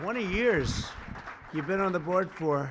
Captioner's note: applause